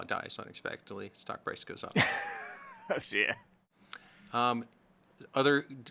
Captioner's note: laughs